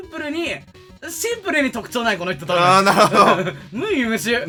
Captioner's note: laugh